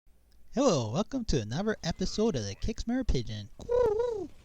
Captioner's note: me doing annoying pigeon cooing sounds